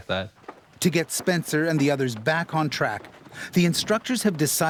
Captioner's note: voiceover